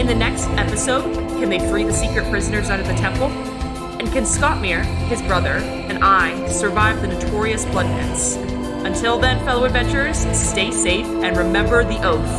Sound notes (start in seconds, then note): none